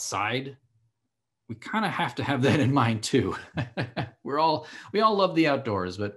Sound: laughing

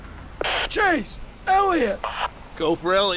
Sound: radio static

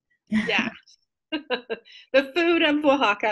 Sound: laughs

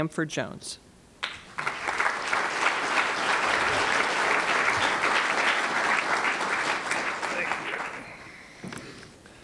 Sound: applause

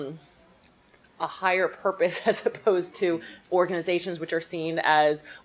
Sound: laughs

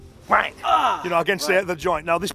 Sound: groans

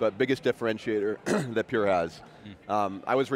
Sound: coughs

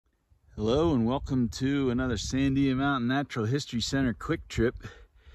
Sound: wind noise

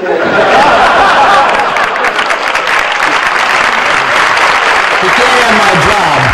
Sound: laughter and applause

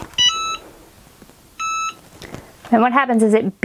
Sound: Easy Press beeping

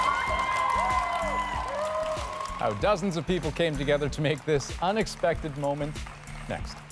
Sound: cheers and applause

